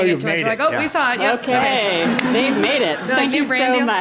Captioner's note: laugh